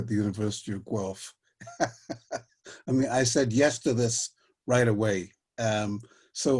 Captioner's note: laughter